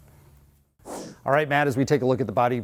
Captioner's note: whoosh sound